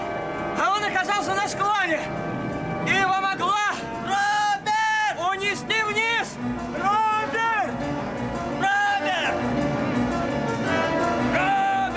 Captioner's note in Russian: крик